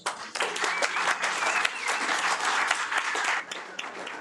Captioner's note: audience applauding